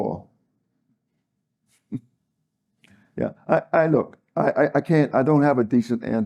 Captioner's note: laugh